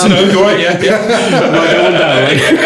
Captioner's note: laughing